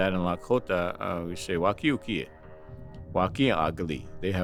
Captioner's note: speaking Lakota